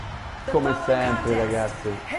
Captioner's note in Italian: Applauso